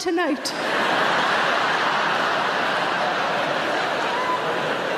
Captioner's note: audience laughing loudly